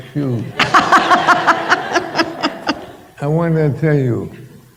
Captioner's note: laughter